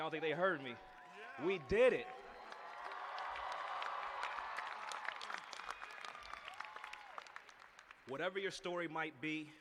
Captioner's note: cheers and applause